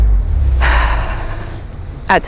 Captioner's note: sighs